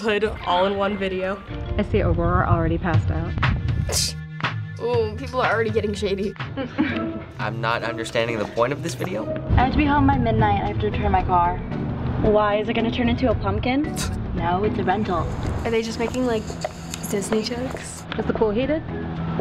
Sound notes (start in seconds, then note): 3.4 electronic music; 6.5 princesses laugh derisively